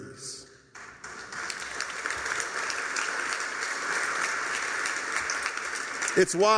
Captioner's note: applause